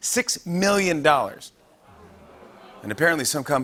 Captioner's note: audience "Oohs"